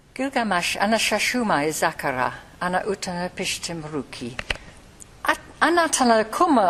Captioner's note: woman speaking in a foreign language